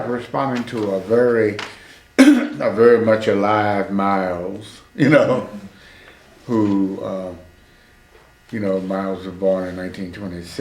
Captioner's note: laughs